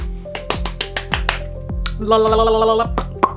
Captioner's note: claps